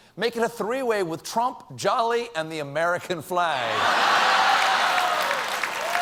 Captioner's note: cheers and applause